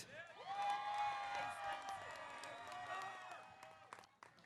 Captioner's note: audience cheering